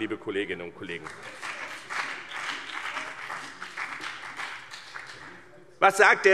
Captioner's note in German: Beifall BÜNDNIS 90/DIE GRÜNEN und CDU